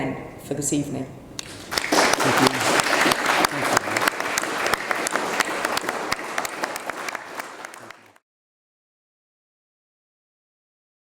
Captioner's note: applause